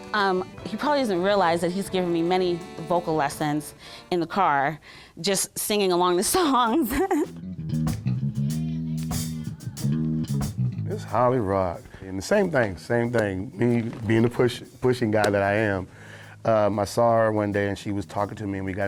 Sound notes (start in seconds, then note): 6.7 laughs